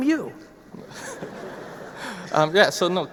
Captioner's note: audience laughing